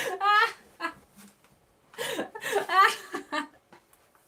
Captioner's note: laughing